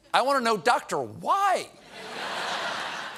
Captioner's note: laughter